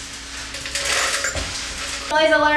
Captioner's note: scraping sound; jingling sound